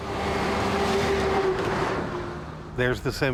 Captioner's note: truck buzzing past